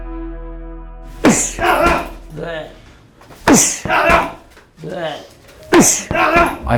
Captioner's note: men grunting